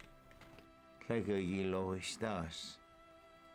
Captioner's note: Spoken Cherokee